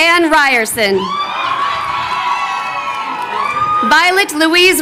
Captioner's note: crowd cheering